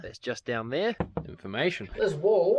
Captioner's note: tap Tap